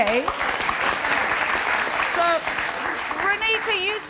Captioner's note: applause